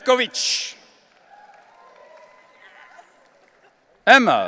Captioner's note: audience cheering